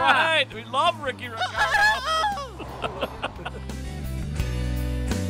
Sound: mimics rooster

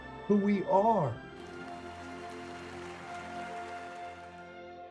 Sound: applause

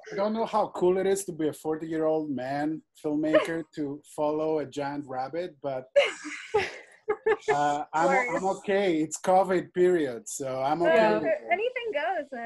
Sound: laughter

